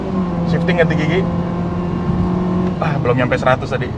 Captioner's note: engine roar sound